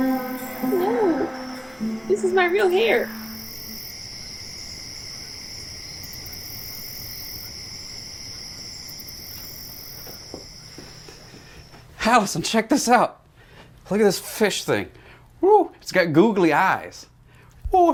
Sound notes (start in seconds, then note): 5.2 insects chirping